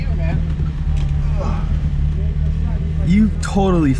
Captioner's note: grunts